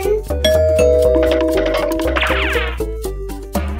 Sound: doorbell

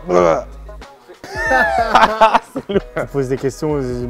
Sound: laughs

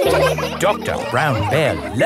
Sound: all laughing

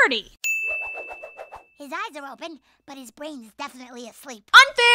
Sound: whooshes

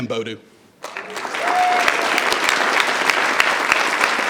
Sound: audience applause

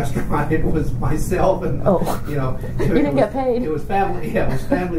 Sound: laughs

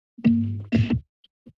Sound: mic thumps

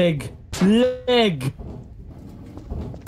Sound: metal falls

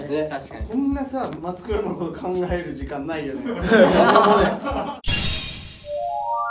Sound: laugh

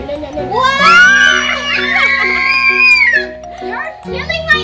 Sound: cheerful screaming

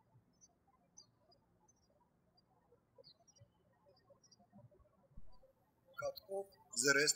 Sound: birds chirping

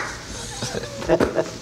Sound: laughter

